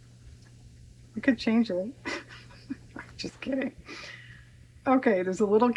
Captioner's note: laughs